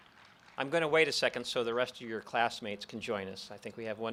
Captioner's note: applause